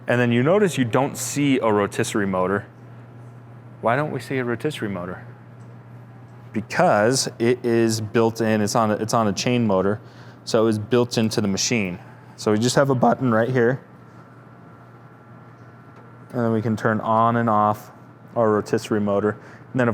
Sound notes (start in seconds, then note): none